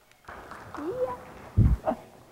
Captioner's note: audience clapping